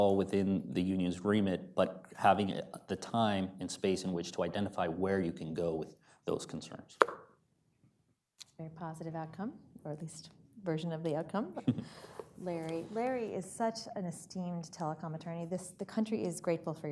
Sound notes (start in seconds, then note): 11.5 laughter